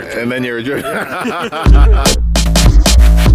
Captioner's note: laughs; techno music